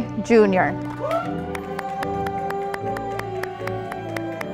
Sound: audience applauding

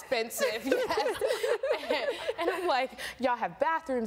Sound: laughing

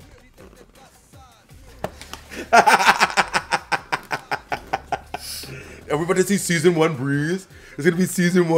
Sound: laugh

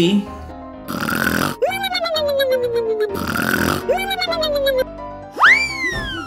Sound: loud snoring

